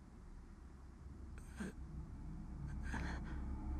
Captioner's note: weak moaning